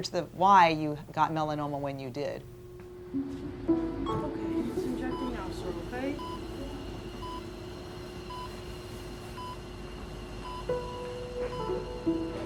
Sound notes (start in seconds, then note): 3.7 machine beeping